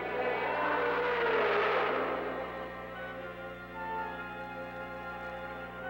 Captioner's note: roaring